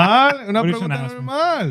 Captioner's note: speaking In Foreign Language